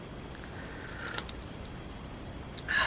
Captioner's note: small slurp